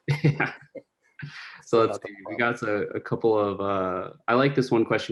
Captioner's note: laughs